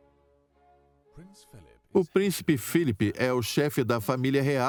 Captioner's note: voiceover